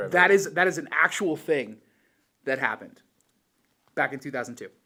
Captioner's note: none